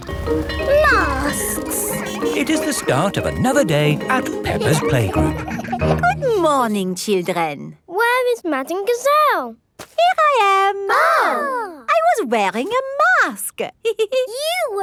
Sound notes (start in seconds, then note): 0.0 bell ringing; 10.8 exclaiming; 14.0 giggles